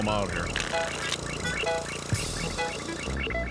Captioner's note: cards shuffle